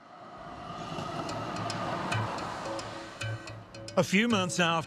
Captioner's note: traffic rumbling; curious music